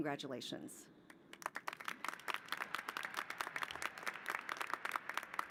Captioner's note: applause